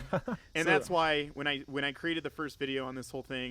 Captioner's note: all laughing